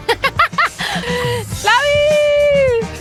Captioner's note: laughs